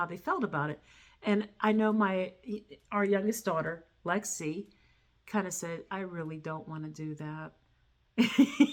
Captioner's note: laughter